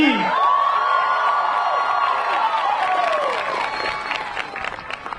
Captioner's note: graduates cheering